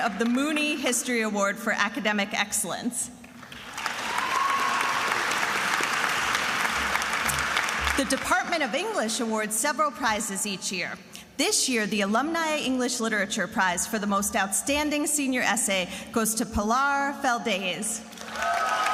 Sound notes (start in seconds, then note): 3.4 attendees applauding and cheering; 18.2 attendees applauding and cheering